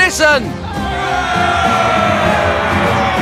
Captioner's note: cheering